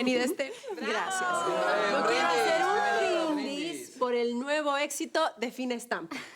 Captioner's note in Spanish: Exclamaciones